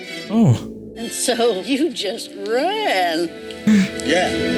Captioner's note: chuckles